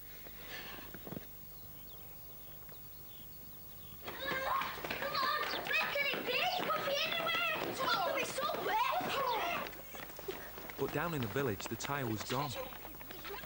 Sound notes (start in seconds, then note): 0.5 birds tweeting; 4.1 boys all shouting